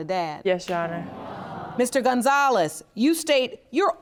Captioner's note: audience groans